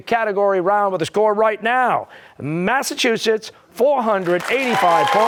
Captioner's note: cheers and applause